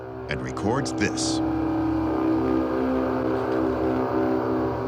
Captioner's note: horn-like sound